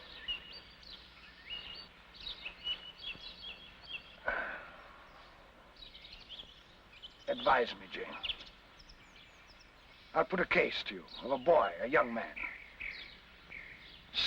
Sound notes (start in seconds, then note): 0.2 birds chirping; 4.2 Rochester sighs; 5.7 birds chirping